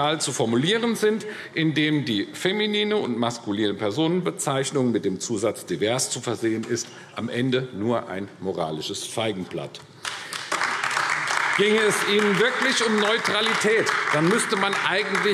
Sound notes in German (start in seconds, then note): 10.0 Beifall AfD